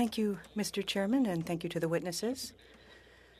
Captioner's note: speaking French